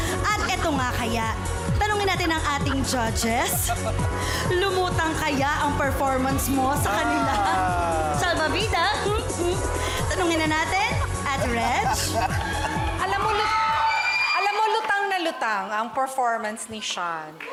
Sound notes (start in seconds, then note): 2.2 judges laughing; 11.8 crowd cheers